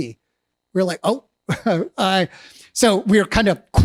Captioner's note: laughs